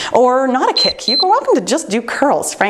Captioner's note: timer beeps